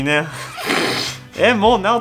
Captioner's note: he can't stop laughing